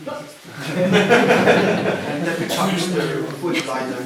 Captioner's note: laughter